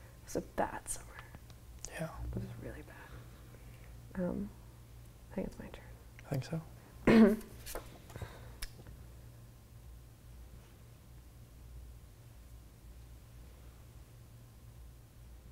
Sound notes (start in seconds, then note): 7.0 clears throat